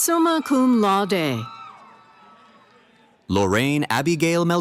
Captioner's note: cheering